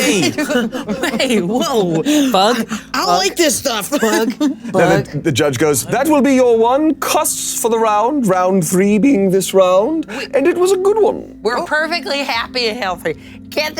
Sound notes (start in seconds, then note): 1.8 players laughing